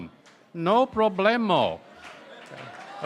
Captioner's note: applause & Cheering